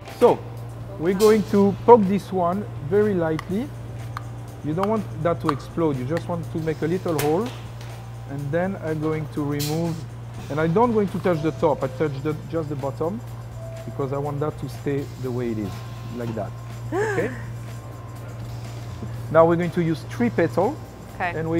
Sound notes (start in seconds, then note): 16.9 gasps